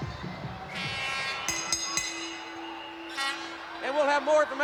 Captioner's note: bell ringing